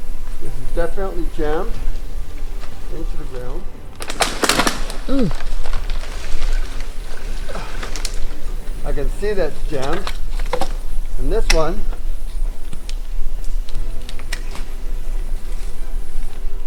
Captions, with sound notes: This is definitely jammed into the ground. (tree crackling) I can see that's jammed. And this one, (tender music)